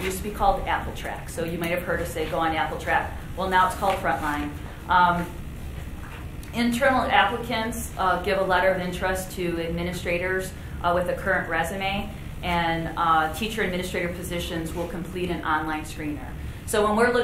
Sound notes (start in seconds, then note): none